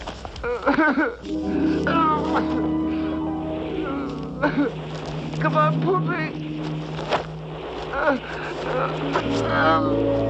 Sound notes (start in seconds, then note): 4.1 sobbing